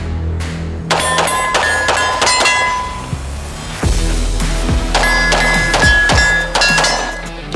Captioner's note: gunshots banging; targets pinging